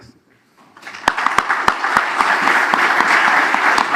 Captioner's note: applause